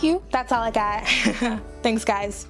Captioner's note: laughs